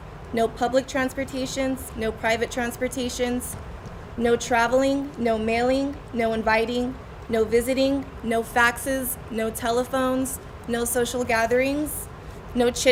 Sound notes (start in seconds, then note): none